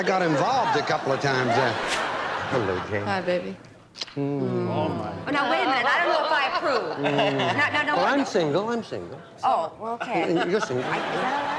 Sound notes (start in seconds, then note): 4.2 both moan